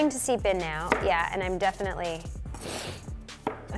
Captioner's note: sniffs